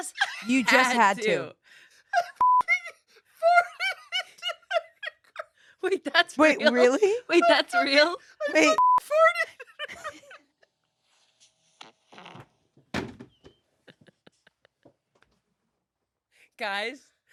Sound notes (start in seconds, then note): 2.4 beep; 2.6 laughs; 8.7 beep; 9.0 laughs; 11.8 recording farts; 13.9 everyone laughs